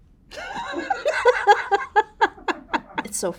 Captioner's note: Raven-Symone laughing